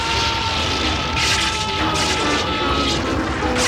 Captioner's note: rumbling; screaming